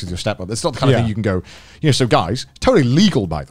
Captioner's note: murmurs